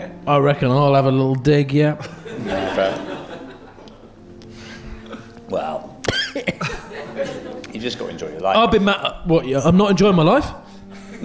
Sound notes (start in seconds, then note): 6.1 chuckling